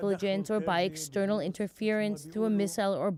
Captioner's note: speaking Foreign Language